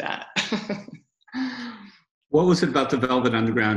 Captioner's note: laughs